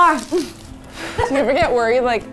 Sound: sighing

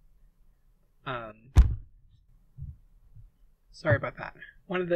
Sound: mic falling over

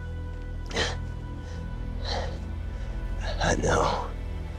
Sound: panting

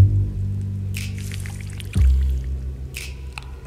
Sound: hissing of oil

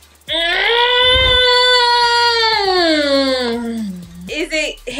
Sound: vocalizing frustration

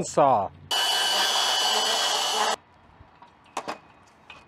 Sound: saw grinds

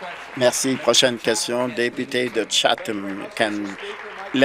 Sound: applause

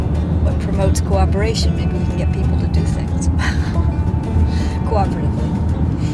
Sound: laugh

